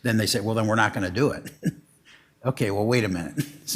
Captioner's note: chuckles